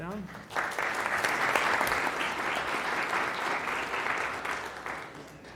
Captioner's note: applause